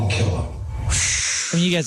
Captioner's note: whistle